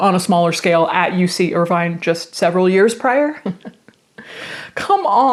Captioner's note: laughs